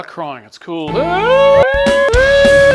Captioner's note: crying noises mixed with punk music; crying noises